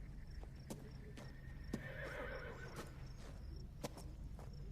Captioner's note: horse neighs